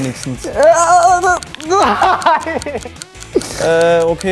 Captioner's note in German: ächzend